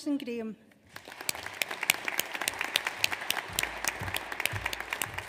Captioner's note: audience applauds